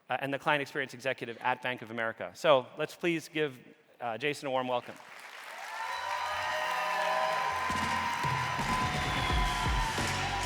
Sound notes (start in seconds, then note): 4.9 audience cheering and applauding; 7.6 upbeat music